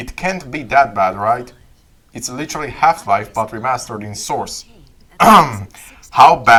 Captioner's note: ehem